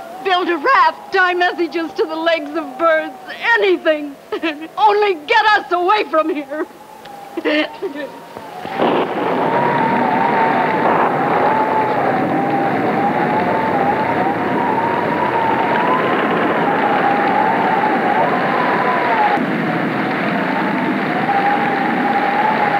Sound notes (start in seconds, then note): 7.3 Fran sobs; 8.7 thunder rumbles; 10.2 rain pouring; 10.2 wind howls